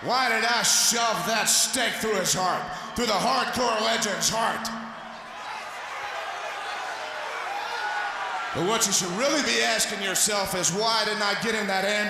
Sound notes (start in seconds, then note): 8.1 crowd chatter